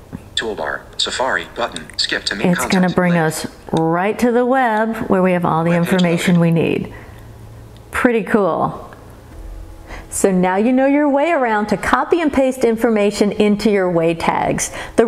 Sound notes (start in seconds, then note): 0.5 VoiceOver speaking